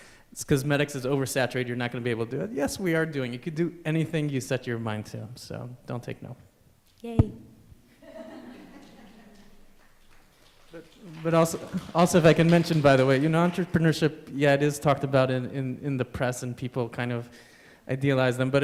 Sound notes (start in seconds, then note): 8.0 laughter; 8.7 applause